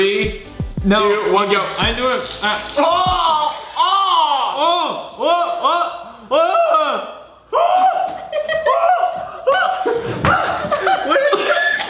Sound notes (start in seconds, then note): 7.8 they laugh; 8.0 father gags